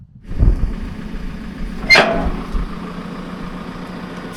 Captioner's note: engine motor running